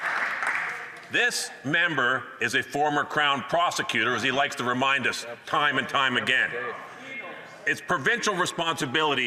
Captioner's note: some Applause